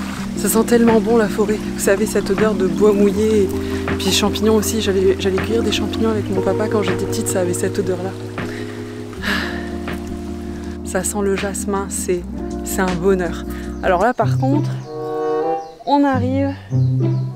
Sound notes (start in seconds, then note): 8.4 sighs